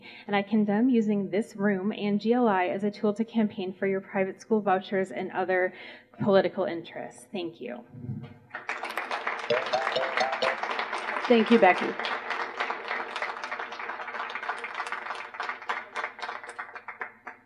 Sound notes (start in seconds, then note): 8.5 applause; 9.5 chime sounds; 12.5 applause